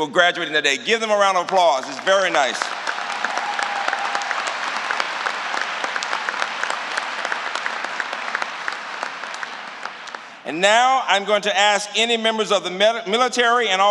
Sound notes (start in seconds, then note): 1.1 applause